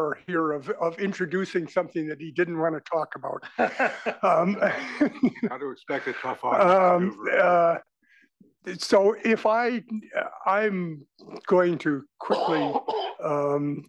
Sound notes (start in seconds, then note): 2.9 laugh